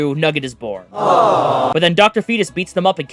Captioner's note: aww